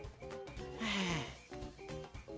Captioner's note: sigh